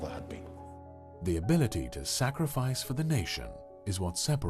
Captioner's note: voiceover